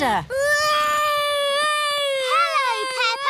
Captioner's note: continues wailing